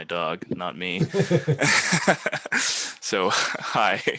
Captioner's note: laughing